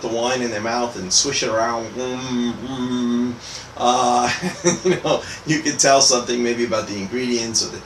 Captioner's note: mmm, mmm